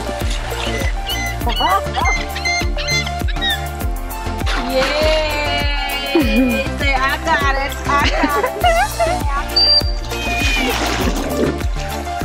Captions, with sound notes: Yayyy say I got it! I got it! (*laughter*) (*dolphin squeal*)